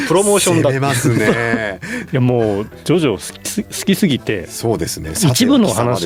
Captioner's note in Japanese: 笑い